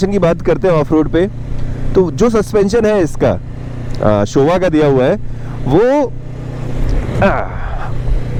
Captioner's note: grunts